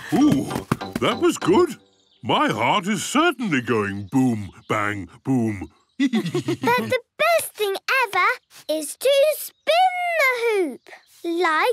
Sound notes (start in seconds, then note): 0.0 both laugh; 6.0 laughs